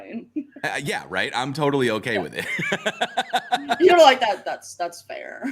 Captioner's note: laughs